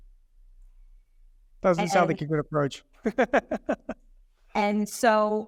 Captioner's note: chuckling